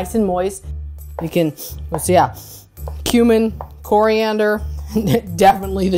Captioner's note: sniffs